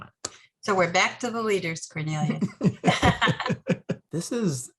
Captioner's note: laughing